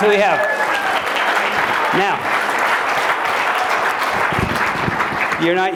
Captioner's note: applause